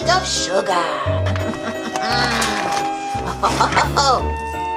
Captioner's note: laughs evilly